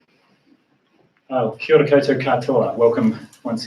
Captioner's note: non-english speech